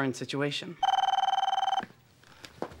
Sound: phone ringing

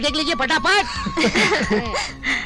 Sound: laughing

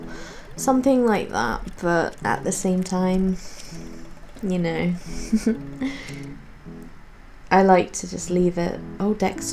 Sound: giggles

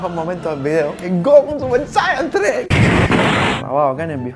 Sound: super saiyan sound

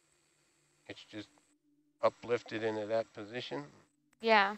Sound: male Voice

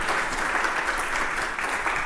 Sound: applause

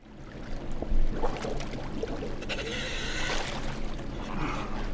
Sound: water bubbling

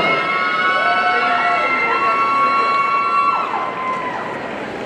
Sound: audience cheering

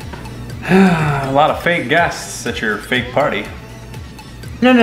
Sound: sighs

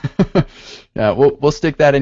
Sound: chuckles

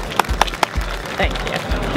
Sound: clapping

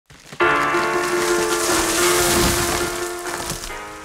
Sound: muffled crunch

